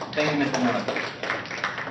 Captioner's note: applause